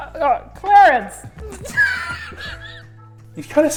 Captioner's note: cracks up